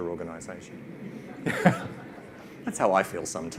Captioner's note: all laugh